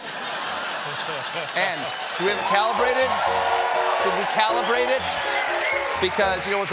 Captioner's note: laughter; applause